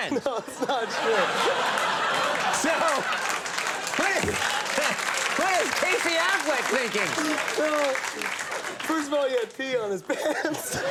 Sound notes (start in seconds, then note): 0.0 audience Laughing; 1.0 audience applauding